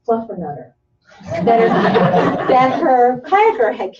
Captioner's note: laughter